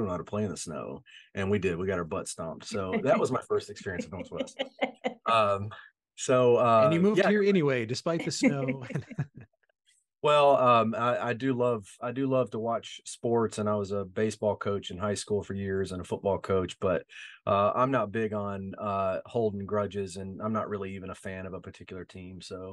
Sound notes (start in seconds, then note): 9.1 laughing